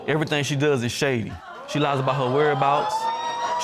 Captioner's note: audience exclaiming